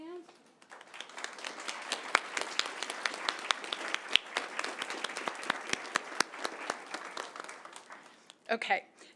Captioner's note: applause